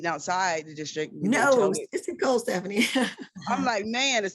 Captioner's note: laughs